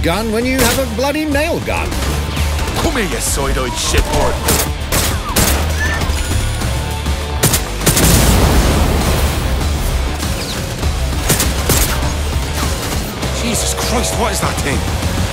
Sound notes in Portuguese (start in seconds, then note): 7.9 explosão